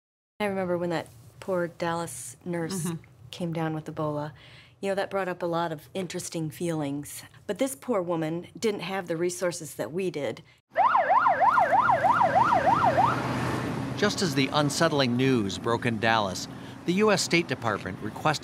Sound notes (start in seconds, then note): 12.6 sirens blaring